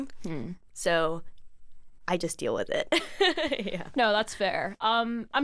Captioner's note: laughs